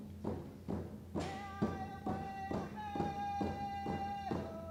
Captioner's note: drums beating; chanting in foreign language